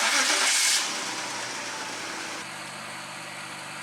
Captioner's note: engine Starting Sound